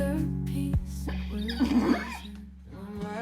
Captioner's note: pony neighing